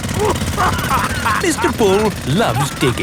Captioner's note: laughing